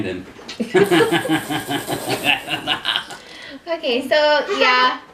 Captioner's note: laughter